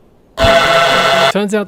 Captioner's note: aggressive honking